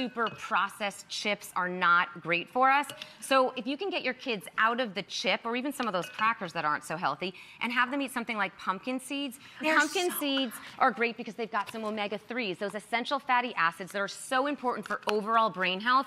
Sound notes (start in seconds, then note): none